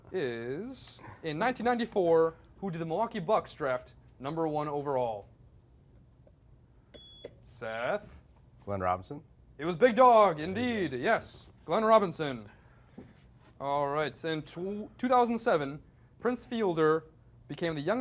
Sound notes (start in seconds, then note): 6.9 beep